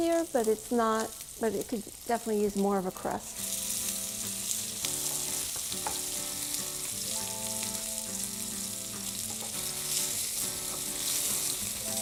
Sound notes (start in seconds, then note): 5.7 beef sizzles